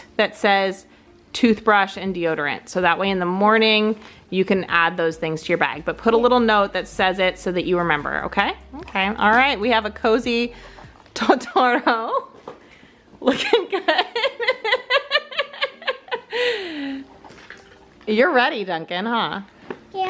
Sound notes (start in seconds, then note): 13.2 laughing